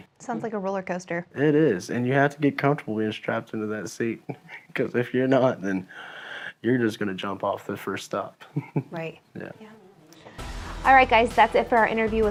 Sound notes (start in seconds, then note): 8.4 laughing